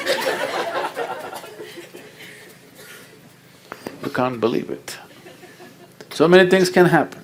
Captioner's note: laughter